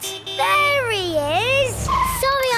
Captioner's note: honking